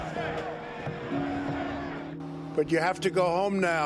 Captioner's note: crowd chanting